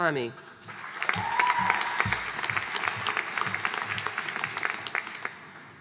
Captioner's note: audience applauding